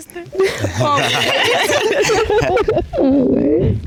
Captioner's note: all laughing